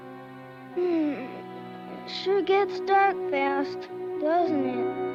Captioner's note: yawns